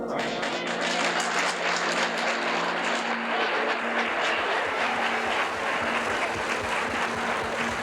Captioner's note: crowd applauding